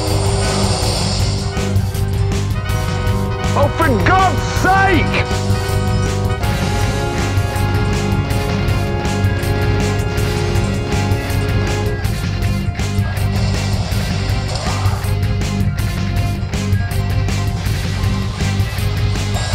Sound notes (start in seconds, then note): 3.6 airhorns